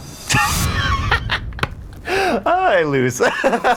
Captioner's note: laughing